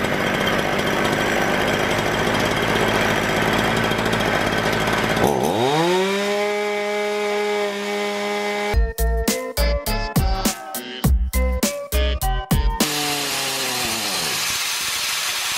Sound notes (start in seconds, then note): 0.0 cranking chainsaw; 10.3 motor revving